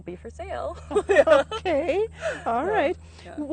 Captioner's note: laughing